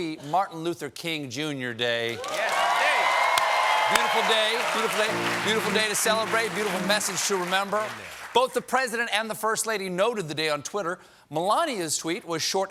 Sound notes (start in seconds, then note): 2.1 cheers and applause